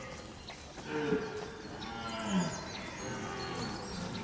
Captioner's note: stag roars